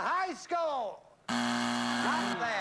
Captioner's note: buzzer